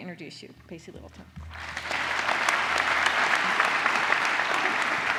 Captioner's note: applause